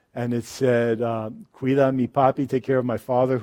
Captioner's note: speaks in foreign language